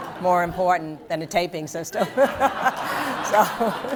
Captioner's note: laughter